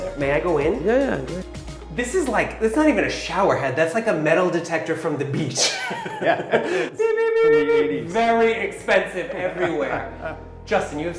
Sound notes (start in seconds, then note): 7.4 imitating beeping; 9.5 chuckling